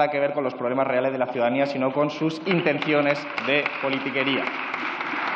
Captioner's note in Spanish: Aplausos